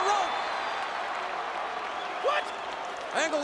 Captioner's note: crowd cheering